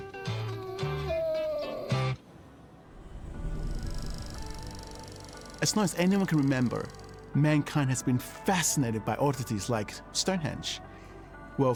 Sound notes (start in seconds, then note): 0.0 Archie whimpering; 3.3 film reel whirring; 3.4 pensive music